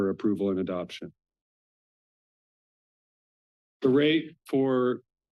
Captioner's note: pause